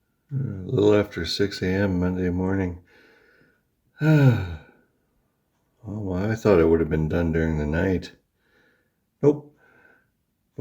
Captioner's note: sighs